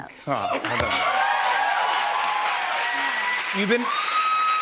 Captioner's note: cheers and applause